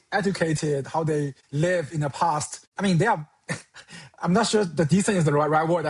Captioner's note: chuckles